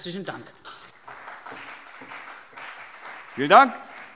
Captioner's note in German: Beifall CDU und BÜNDNIS 90/DIE GRÜNEN